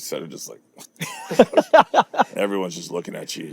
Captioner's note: laughing